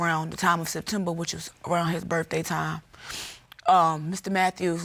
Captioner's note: sniffles